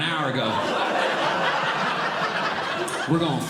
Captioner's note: audience Laughing